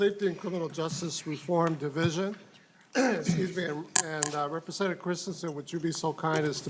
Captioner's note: gavel